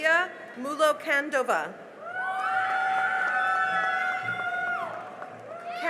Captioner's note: cheering and applause